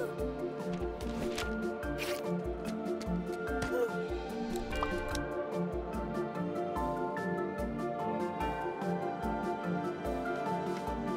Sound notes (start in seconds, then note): 3.6 grunts